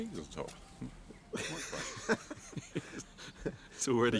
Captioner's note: laughing